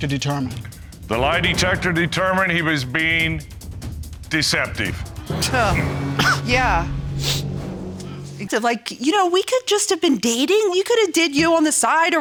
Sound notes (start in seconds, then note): 6.0 coughs; 6.6 scoffs; 7.8 sniffles; 8.9 stammering